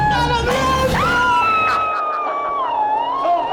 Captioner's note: screams